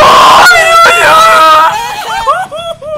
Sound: gutteral scream

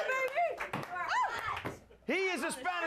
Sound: audience cheers

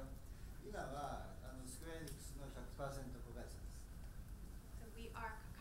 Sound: speaking in foreign language

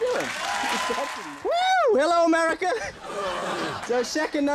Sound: Andy grunts

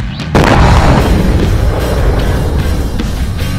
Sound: explosion explodes

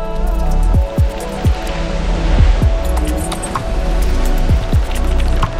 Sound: waterfall roaring

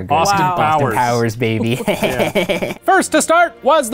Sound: laughing

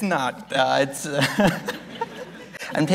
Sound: laughs

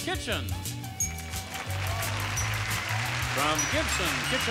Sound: audience applauding

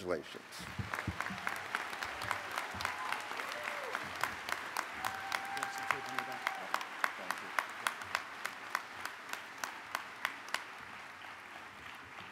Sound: applause

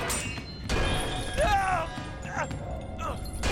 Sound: scream

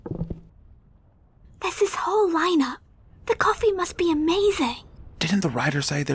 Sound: hayden and kameron's conspicuous footsteps; whisper

